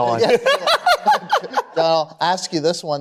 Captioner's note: laughter